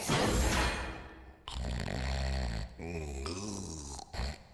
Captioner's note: snoring